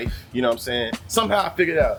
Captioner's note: birds Chirping